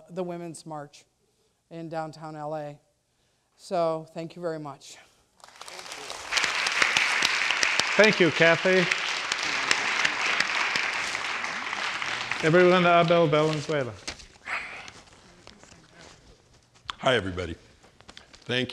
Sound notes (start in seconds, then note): 5.9 students applauding